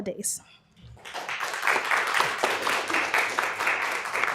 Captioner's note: applause